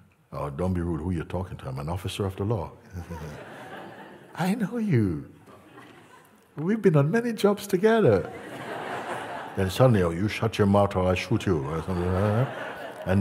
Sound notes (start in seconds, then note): 8.8 Lachen